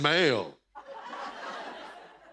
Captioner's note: laughter; chuckles